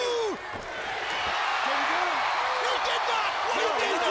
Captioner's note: audience cheering